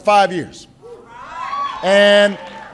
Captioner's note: applause